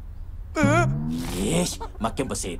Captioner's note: sighs; horrified gasp